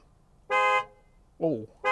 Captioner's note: car horn honking